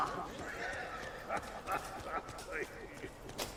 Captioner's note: laughs